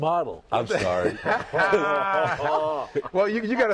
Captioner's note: laughter